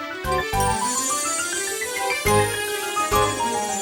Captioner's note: zapping